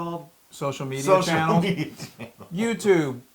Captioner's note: laugh